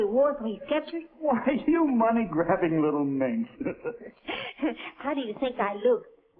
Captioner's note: laughing